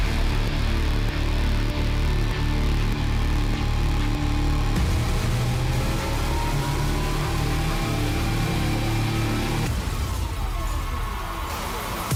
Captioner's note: crowd cheering